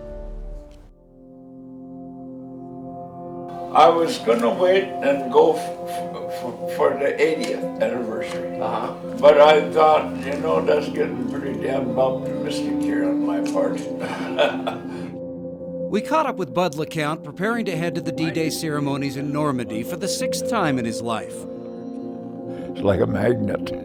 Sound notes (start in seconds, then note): 9.7 laughs